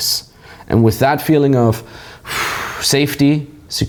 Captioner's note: sighs